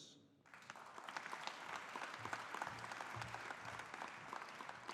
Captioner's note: audience applauding